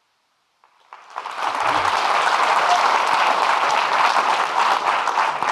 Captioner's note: audience clapping